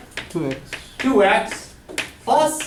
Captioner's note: voiceover